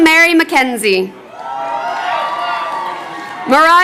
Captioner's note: crowd cheering